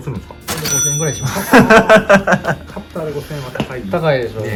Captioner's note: laughs